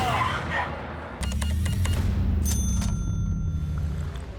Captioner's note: cash register beeps, dings